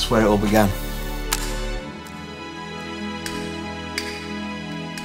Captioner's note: light switches clicking